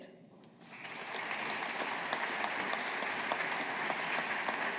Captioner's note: audience applauding